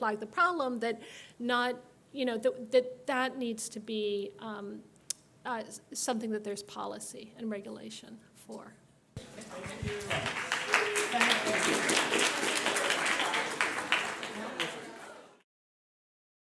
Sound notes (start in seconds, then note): 9.2 audience applauds